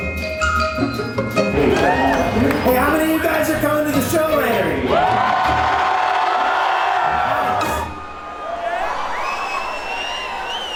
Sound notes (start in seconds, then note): 5.1 audience cheering loudly